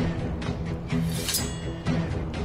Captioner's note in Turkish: Kılıç sesi